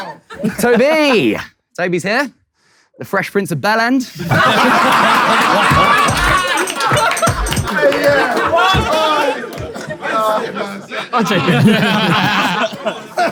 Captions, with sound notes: - Tobi. Tobi's here. The Fresh Prince of *******. [people in room laughing] [soft hip hop music] - I'll take it, yeah.